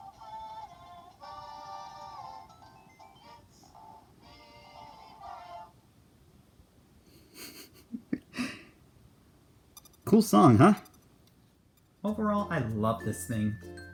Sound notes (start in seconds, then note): 7.1 chuckling